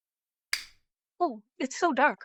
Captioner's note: light switch flicks off